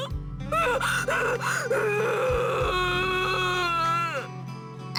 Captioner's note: bawl; unreserved bawling